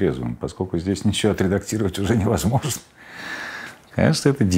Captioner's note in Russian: смеясь